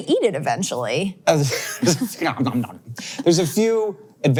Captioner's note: imitates munching